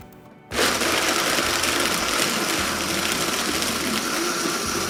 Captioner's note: blending sound